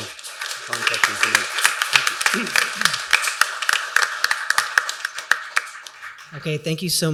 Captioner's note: applause